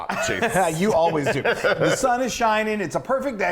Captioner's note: laugh